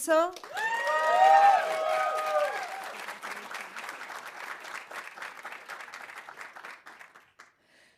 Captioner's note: audience applauding; audience cheering